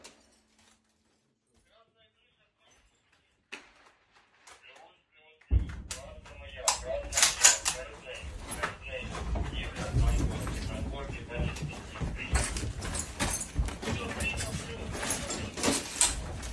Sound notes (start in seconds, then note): 1.8 radio